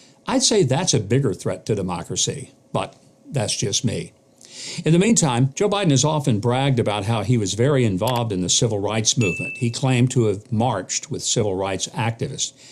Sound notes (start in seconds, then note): 8.0 mouse clicks; 9.2 bell dings